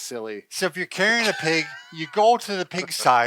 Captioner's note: laughing